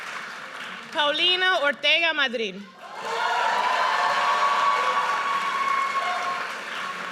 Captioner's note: audience cheers